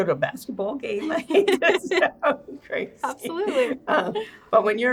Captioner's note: both laughing